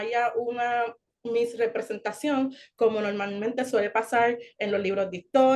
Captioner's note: continues speaking Spanish